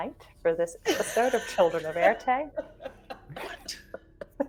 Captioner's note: group laughing